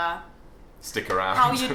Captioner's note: laughing